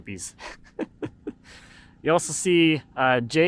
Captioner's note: laughs